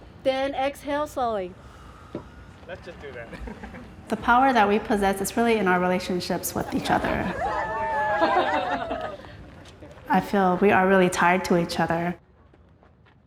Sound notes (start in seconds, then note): 3.3 laughs; 7.4 all laughing